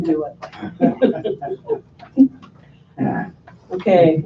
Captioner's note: laughing